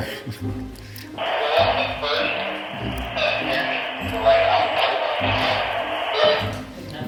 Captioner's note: laughs; on walkie-talkie